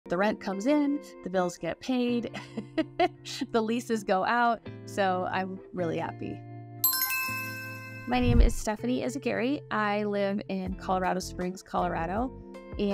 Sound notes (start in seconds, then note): 0.0 quiet soft music; 2.3 chuckles; 6.8 bells chiming